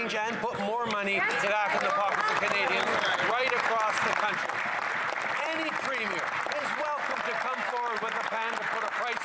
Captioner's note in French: voix de l'interprète